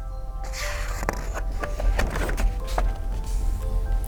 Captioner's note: page turns